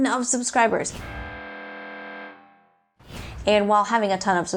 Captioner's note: low tone